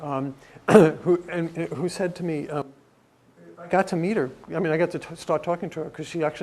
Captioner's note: cough